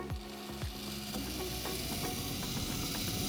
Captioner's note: whirring